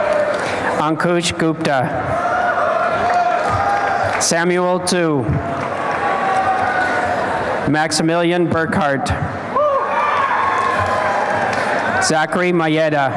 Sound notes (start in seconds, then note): 5.4 applause and cheering; 9.6 applause and cheering